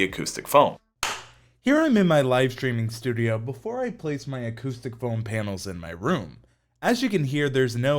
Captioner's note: clap